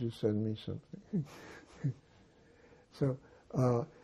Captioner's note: laughing